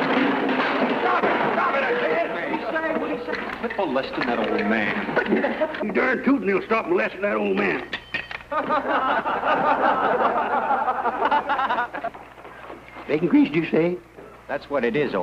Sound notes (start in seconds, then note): 0.0 laughing; 8.4 laughter